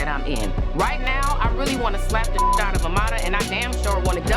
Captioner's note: beep